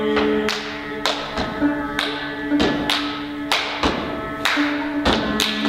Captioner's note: rhythmic clapping and stomping